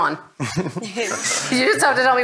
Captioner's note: all laugh